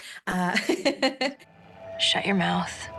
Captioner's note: laughter